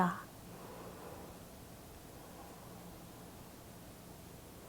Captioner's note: breathing deeply